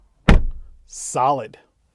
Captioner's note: thudding sound